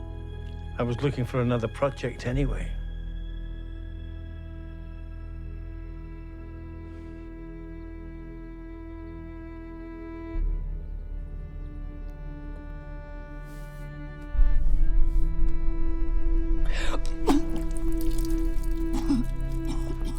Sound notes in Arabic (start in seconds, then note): 17.1 تهوع